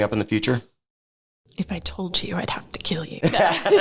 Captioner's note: laugh